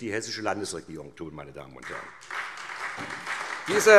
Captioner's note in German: Beifall SPD